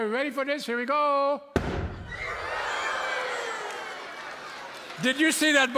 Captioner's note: loud boom; audience screams